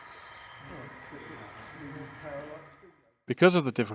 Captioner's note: silence comes